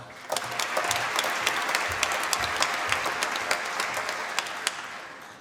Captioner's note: applause